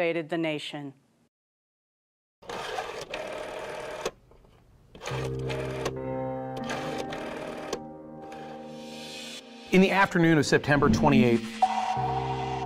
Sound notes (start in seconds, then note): 2.8 rotary phone dials; 5.5 ominous music